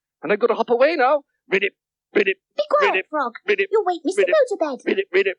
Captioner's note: frog noises get faster